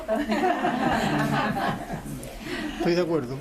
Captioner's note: laughs